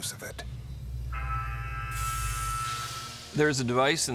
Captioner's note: alarm blaring